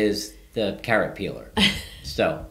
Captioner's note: laughing